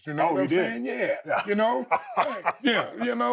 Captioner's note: Steve laughing